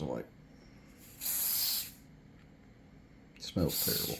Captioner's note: spraying